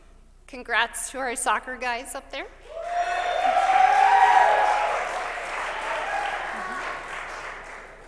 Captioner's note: cheers